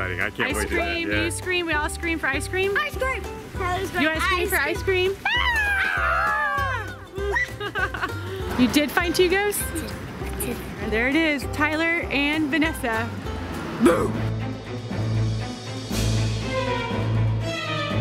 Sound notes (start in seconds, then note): 5.2 children playfully screaming; 15.1 dramatic music